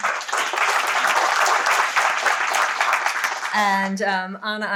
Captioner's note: audience applauds